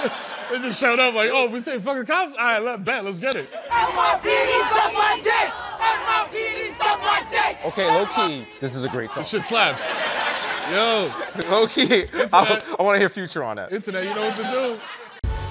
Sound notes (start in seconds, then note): 0.0 laughter; 3.6 protesters chanting